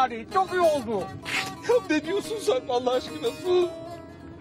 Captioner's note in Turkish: Ağlama sesi